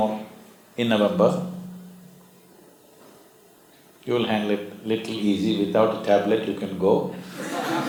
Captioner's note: laughter